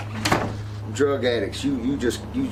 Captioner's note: door thuds